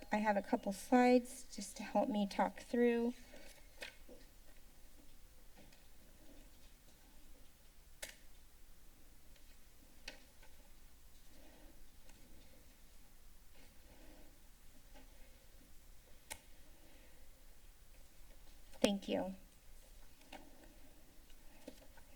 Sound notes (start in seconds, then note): 3.2 paper shuffling; 4.4 footsteps; 8.2 click; 10.0 paper rustling sound; 12.6 silence; 16.3 click; 17.0 silence; 19.4 paper rustling sound